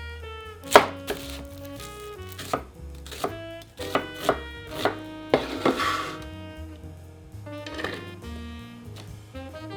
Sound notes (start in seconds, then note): 0.6 knife slicing; 7.7 onions dropping